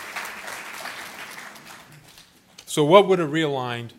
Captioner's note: applause